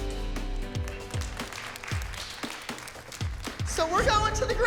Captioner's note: clapping